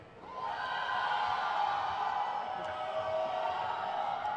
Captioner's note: crowd cheers